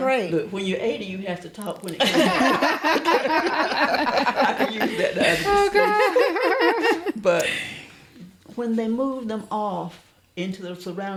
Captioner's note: laughter